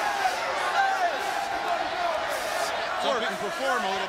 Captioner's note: crowd chatter